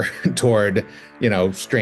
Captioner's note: chuckling